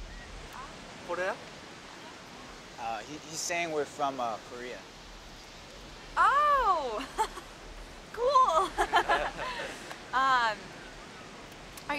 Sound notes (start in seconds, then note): 1.7 speaks in korean; 8.3 laughs; 8.4 chuckles